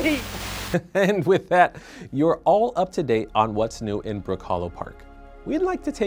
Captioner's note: chuckles